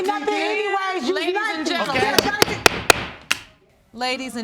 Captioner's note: banging gavel